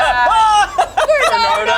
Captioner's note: laughs; screams